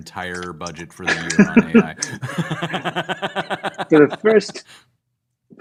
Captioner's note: laughter